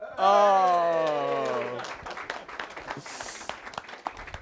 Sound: applause

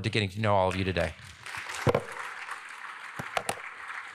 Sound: applause

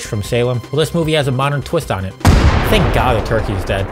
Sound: gunshot

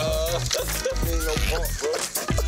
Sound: laughing

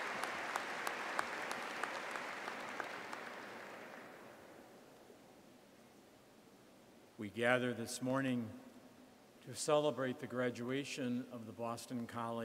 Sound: applause

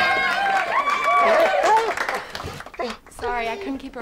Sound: cheers; applause

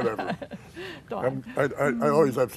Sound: laughs

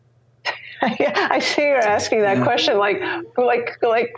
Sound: laughs

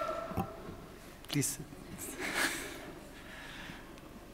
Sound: chuckles

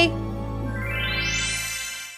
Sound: magical flourish

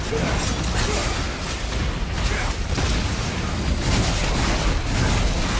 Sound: sword fighting continues

